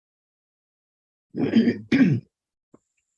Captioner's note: clear throat